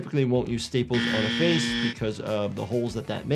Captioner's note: buzzer buzzing